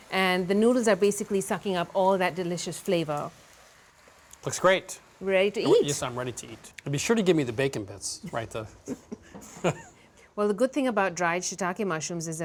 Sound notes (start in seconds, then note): 8.9 laughing